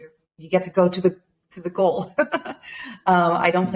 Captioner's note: chuckles